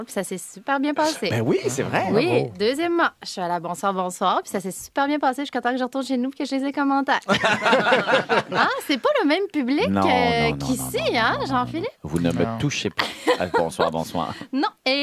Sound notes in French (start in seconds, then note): 7.2 rires